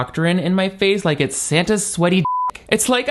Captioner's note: beep